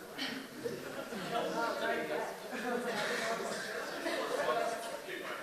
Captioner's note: crowd murmuring and laughing